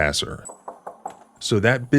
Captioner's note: knock knock knock